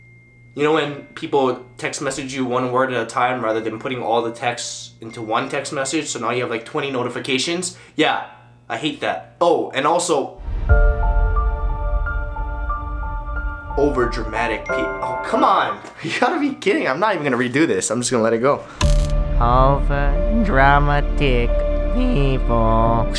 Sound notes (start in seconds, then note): 1.0 text tone; 3.8 text tone; 5.2 text tone x2; 10.4 sad music; 13.7 text tone